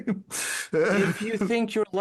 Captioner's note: laughing